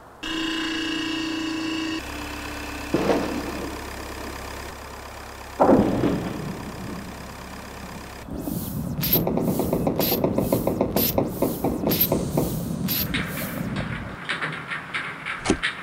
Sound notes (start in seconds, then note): 0.3 truck hum begins; 2.9 bang; 5.5 plonk; 8.1 truck hum stops; 8.6 pump hissing and low creaking; 13.0 rattling and suction noise